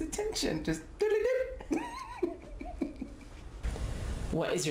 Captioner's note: laughs